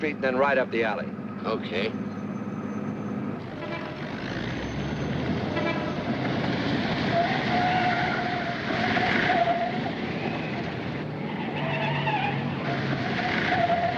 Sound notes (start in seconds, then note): 3.7 car horns honking; 7.2 tires screeching